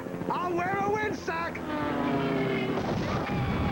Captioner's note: crashing